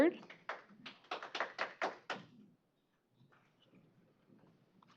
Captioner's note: applause